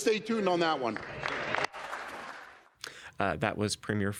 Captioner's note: applauding